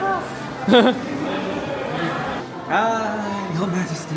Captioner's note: chuckles